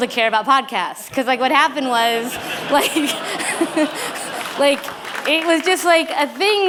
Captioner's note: laughter; applause